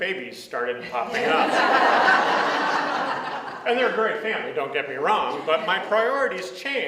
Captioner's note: audience laughs